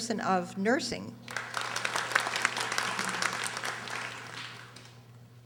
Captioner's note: audience applauding